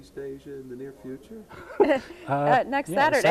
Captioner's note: both laughing